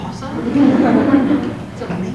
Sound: laugh

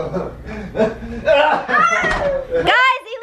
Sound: laughing

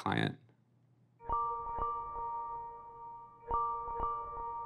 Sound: ringtone

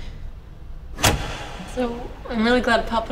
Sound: sound of big lights switching off

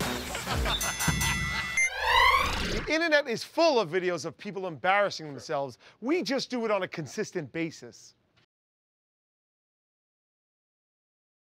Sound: ding!

